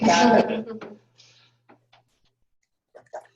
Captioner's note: laughing